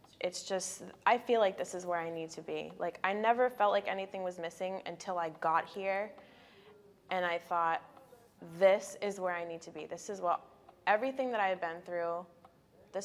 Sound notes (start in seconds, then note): none